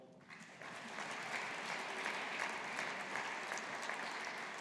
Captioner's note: audience applauding